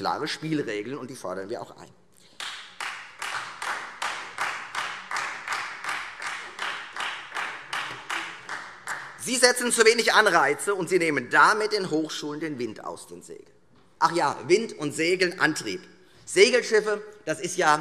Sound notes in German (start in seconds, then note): 2.3 Beifall Freie Demokraten